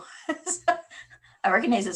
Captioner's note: laughs